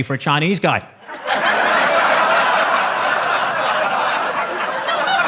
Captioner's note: audience laughs